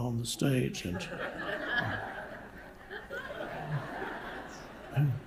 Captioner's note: audience laughing